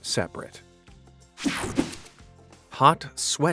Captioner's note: whooshing sound